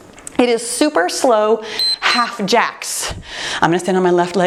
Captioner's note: timer beeps